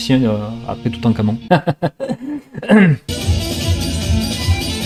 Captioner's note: laughs